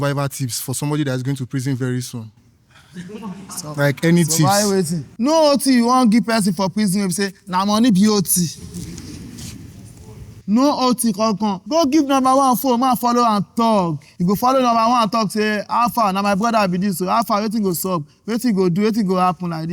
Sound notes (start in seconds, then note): 2.8 audience laughing